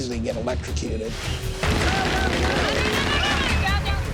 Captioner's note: popping and explosions